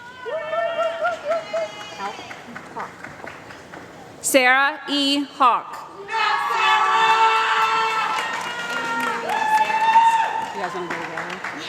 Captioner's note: applause